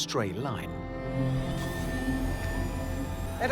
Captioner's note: electrical whine